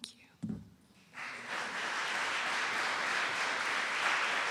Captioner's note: applause